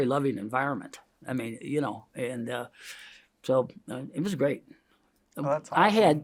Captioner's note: inhales